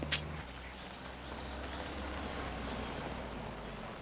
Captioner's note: birds chirping